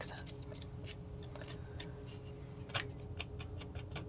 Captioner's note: scraping